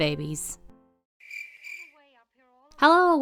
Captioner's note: crickets Chirping